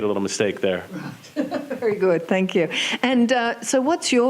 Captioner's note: laughs